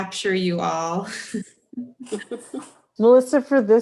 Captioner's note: laughs